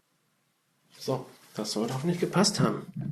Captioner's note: speaking German